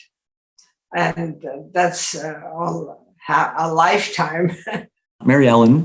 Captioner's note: laughs